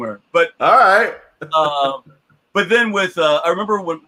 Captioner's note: laughs